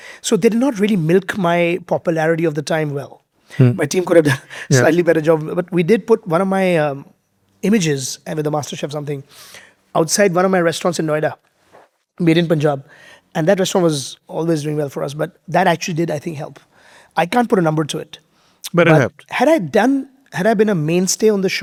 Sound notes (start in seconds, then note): 4.7 chuckles